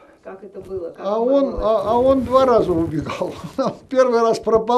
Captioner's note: laughing